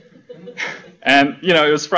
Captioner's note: laughter